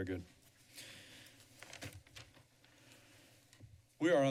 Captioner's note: silence